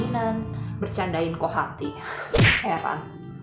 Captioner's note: punch